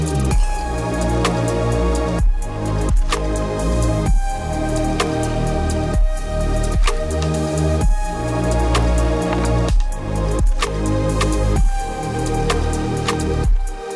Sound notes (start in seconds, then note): none